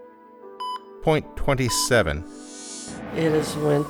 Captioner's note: static